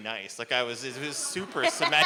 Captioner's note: laughter